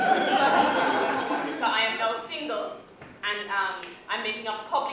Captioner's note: laughter